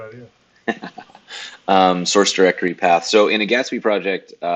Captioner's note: laughs